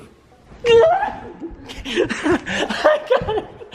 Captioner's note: shouting